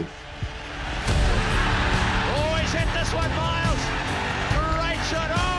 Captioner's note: crowd roars